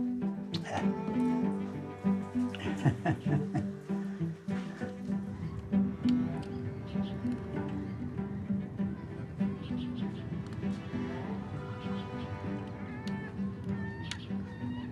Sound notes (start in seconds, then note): 2.4 laughter; 7.3 egret beak clicking; 9.8 inspirational music playing